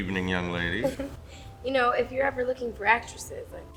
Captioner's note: chuckles